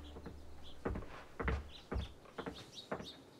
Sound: footsteps towards door

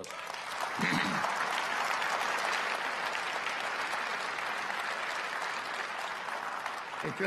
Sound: applause

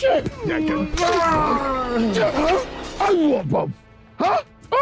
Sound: knife slicing

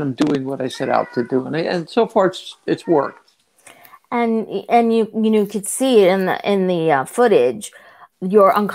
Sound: meow

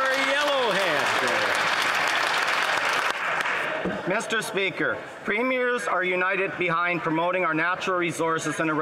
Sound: some Applause

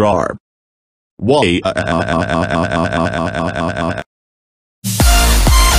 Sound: crying

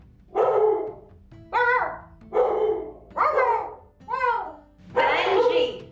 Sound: Benji barking; Witch Aunt barking

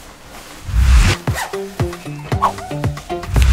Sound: whipping sound effect, then rustling of jacket, then foot steps; whooshing sound effect, then jacket is loudly unzipped; whipping sound effect, then velcro shoes being done up

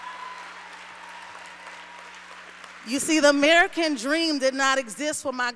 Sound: applause

